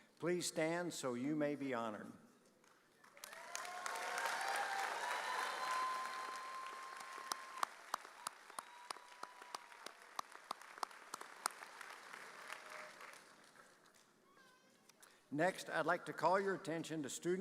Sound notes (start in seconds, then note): 3.2 audience cheering